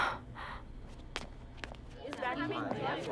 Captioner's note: Footsteps